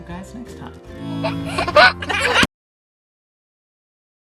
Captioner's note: laughing